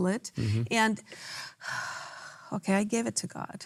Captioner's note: breathes